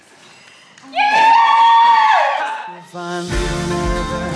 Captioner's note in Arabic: هتاف جماعي